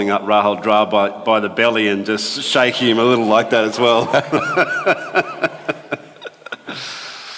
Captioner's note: laughs